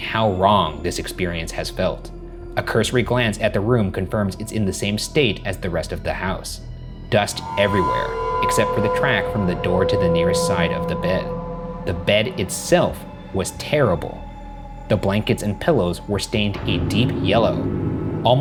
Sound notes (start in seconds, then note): none